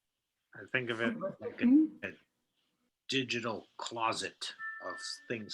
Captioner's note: bold Voice